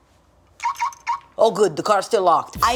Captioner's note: car lock beeping